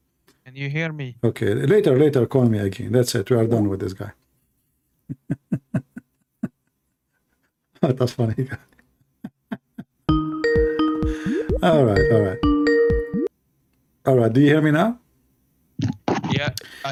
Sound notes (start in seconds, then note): 5.0 Ketawa